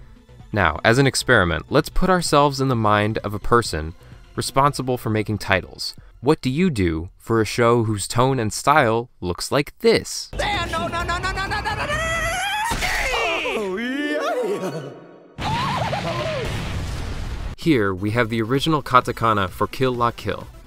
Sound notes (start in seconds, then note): 14.7 moans; 15.3 explodes